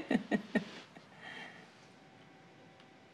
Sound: laughs

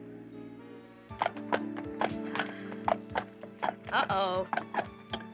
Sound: horse hooves clopping

